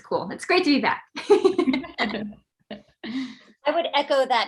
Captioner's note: group laughs